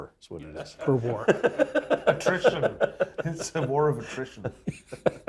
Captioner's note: laugh